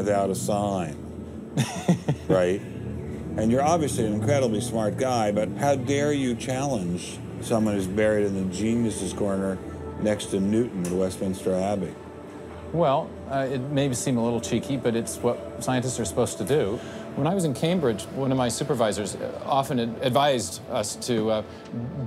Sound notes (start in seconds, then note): 1.6 laughs